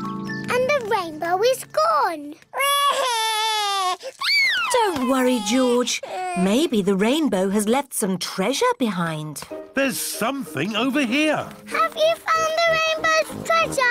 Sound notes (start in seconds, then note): 2.6 cries